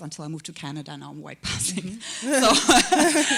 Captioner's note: chuckle